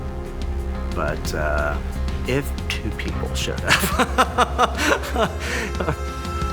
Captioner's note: laughing